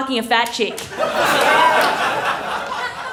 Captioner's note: laughter